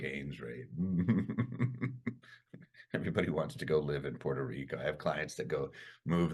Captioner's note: chuckles